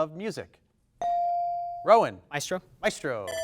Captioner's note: bell dings